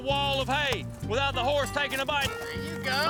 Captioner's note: none